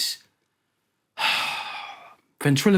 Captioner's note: sighs